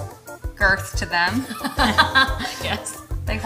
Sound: laughing

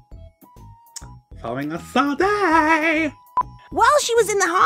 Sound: stereotypical gay man voice again

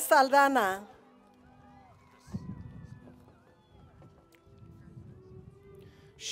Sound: cheering

